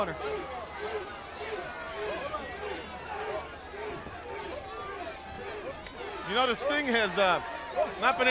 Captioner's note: crowd chatter